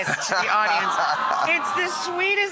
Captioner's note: audience awes